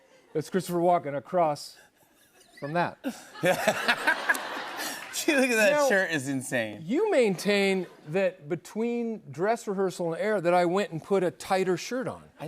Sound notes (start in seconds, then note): 3.0 laughter